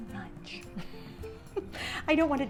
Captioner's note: laughing